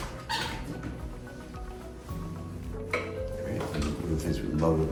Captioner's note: handle creaks